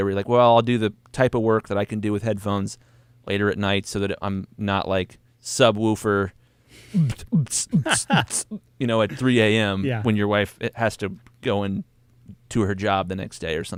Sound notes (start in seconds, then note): 6.8 beatboxes; 7.4 laughs